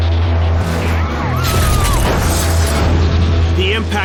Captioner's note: crowd screaming